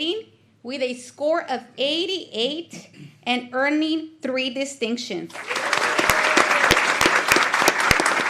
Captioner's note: applause